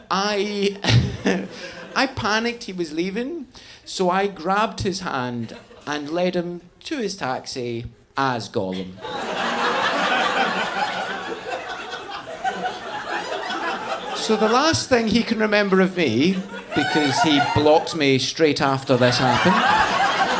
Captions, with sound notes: I panicked he was leaving. So I grabbed his hand and led him to his taxi as Gollum. (audience laughing) So the last thing he can remember of me, because he blocked me straight after this happened,